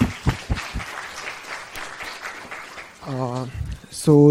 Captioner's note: applause